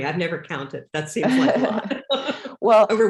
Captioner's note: laughs